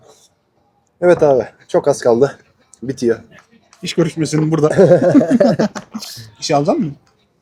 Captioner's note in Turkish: kahkaha